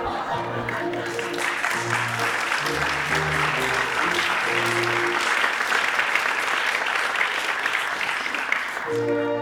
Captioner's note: applause